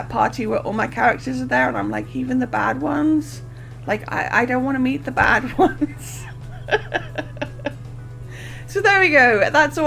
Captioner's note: laughing